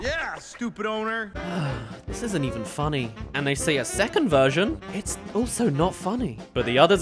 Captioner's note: sigh